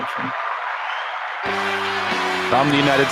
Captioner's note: applause